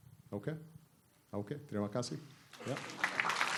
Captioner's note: speaking indonesian; applause